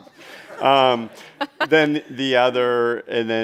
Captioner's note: chuckles